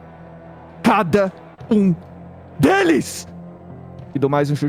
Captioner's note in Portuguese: Gritando